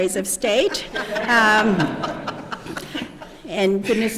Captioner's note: laughter